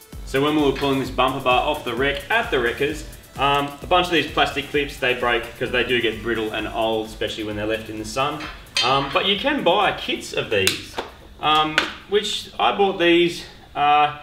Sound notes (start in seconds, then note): 8.0 metallic clattering